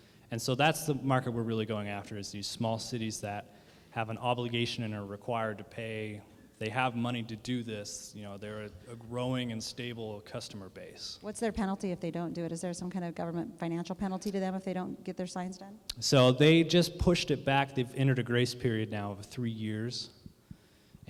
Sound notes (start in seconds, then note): none